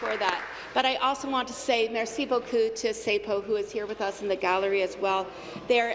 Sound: applause

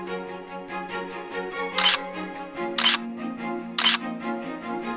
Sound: camera shutter clicks

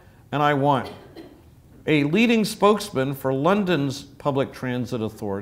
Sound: cough

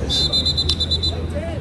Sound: whistle blows, yelling

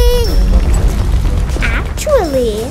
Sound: rattling

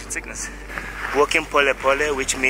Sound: speaks in foreign language

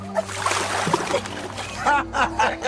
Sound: water splashing; men laughing

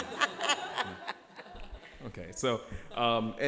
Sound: laughter

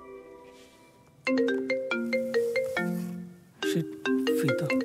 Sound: phone ringing

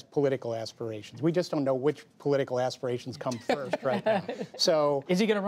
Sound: laughter

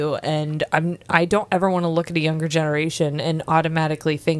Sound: none

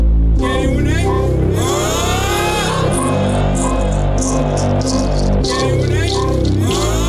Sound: rhythmic music; foreign vocalizing

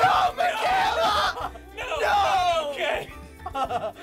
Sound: laughter

